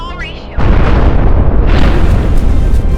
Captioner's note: loud boom